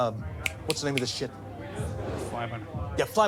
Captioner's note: snaps fingers